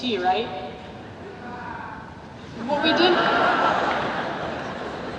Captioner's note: audience laughs